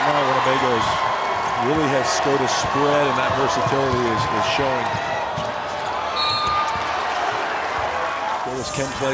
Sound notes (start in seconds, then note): 3.4 crowd cheering